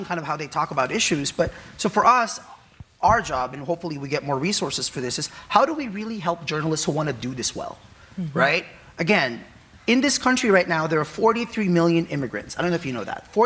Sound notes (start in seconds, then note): none